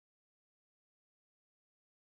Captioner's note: none